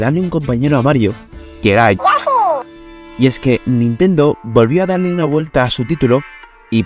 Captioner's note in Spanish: sonido de yoshi